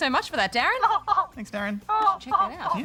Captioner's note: laughs